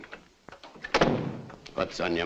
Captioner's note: door thuds shut